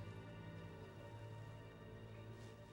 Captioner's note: none